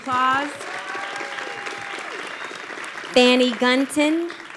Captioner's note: audience applauding